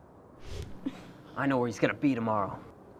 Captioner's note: fist whooshing